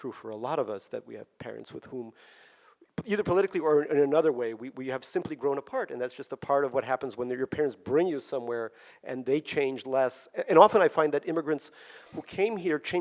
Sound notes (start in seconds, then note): none